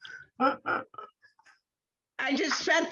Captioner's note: laughing